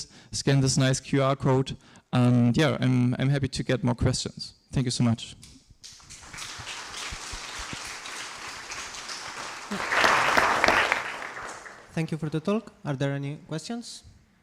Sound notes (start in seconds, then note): 5.8 applause